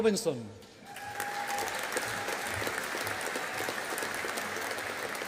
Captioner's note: audience applauding